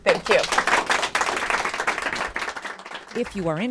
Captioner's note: applause